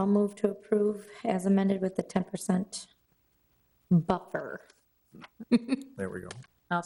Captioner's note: laughs